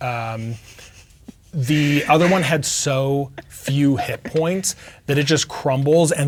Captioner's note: snickering; chuckling